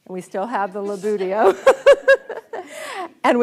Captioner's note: audience laughs